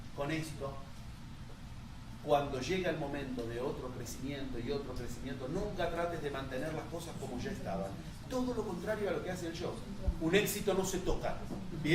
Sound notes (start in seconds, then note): none